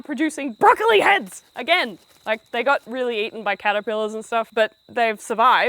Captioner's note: footsteps